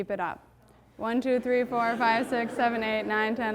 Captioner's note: audience murmuring